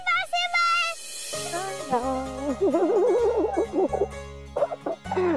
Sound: chuckling

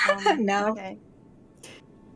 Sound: giggles

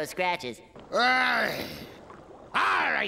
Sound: groaning

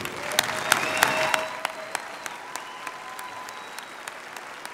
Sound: applause

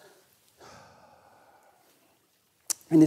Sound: sighs

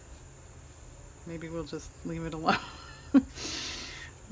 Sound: laughs

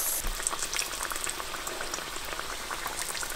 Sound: oil sizzling

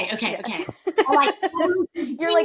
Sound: laughs

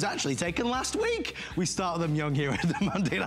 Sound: laughter

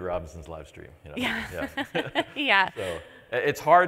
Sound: laughs

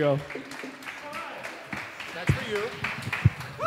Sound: audience applauding

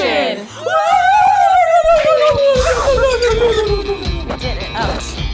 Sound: energetic yelling

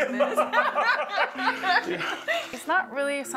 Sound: both laughing

